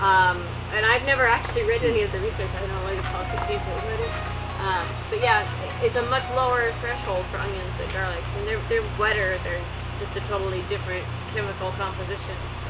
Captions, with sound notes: And I've never actually read any of the research. I don't know what Christine's, (phone ring) but yeah, it's a much lower threshold for onions than garlic. And they're, they're wetter. They're just a totally different chemical composition.